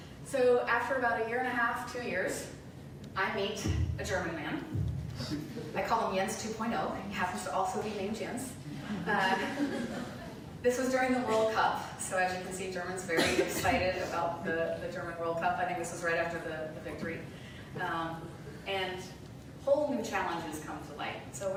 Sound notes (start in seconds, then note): 8.9 light laughter